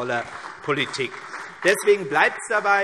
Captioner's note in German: Beifall CDU und vereinzelt BÜNDNIS 90/DIE GRÜNEN